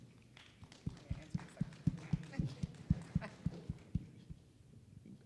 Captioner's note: audience applauding